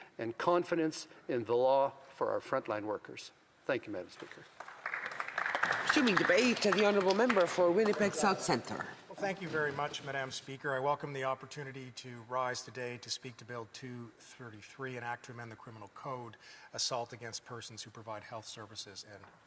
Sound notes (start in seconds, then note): 8.0 some Applause